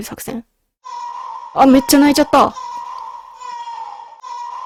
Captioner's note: baby's cry